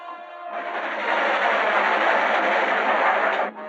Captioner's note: train rattling